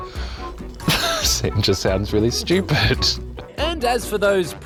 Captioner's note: laughs